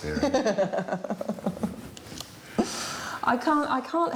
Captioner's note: laughing